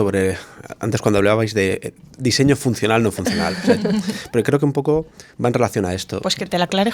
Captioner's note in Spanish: risas